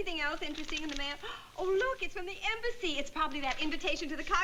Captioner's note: gasps